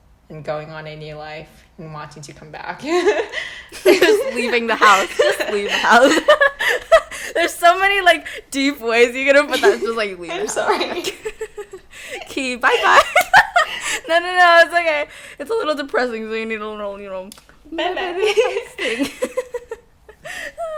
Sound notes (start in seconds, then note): 3.0 nervous laugh; 17.7 teehee; 17.7 laughter